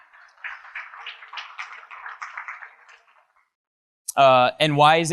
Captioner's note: audience applauds